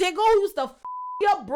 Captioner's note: beep